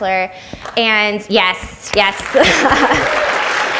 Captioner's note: audience applauds